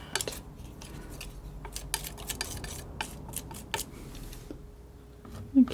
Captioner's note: scratching